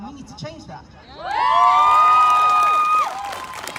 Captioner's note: whooping; applause